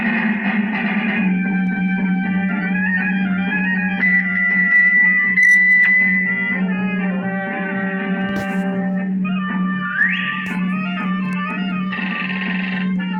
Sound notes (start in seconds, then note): 8.7 whistles